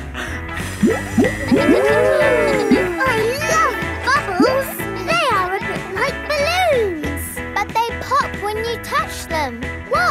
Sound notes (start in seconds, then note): 0.9 kids gasping and laughing